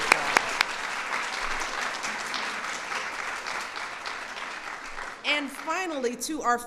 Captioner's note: applause